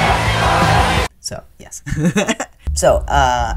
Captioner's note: laughter